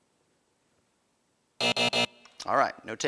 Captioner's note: buzzing